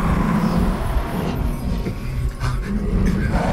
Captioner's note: intimidating growl; nervous gasping; growling continues